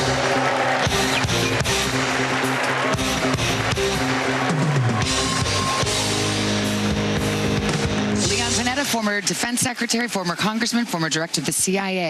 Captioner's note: applause